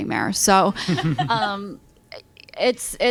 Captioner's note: laughter